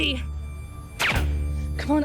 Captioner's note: gun fires